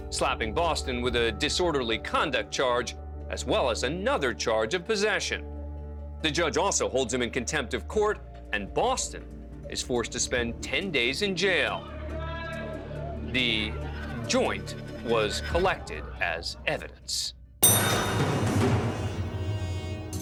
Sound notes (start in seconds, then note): 11.9 indistinct chatter; 17.6 foreboding music playing